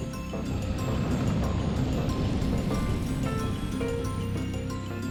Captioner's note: breathing fire